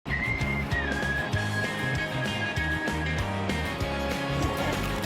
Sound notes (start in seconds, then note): 0.0 whistling; 2.3 upbeat music